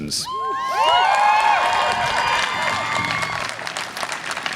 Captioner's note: audience cheering